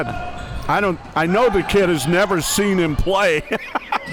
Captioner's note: laughs